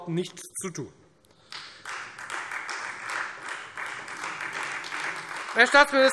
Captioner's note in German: Beifall Freie Demokraten und AfD